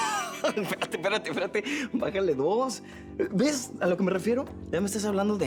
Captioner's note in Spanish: Risas